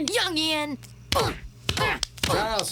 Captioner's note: grunting